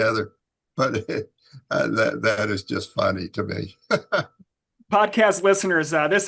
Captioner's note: laughs